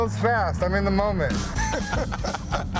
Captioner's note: laughs